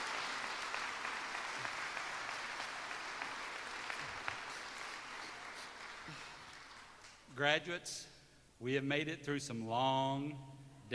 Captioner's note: applause